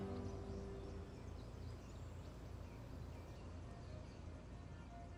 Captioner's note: birds chirping